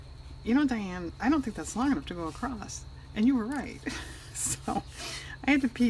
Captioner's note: laughs